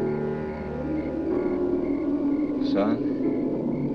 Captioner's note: creature wailing